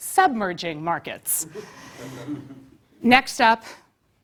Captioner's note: laugh